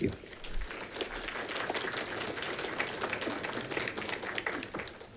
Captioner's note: audience applauding